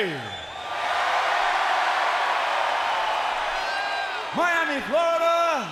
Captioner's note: audience clamors